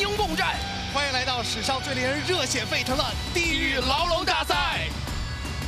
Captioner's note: speaking in Mandarin